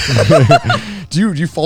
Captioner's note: laughing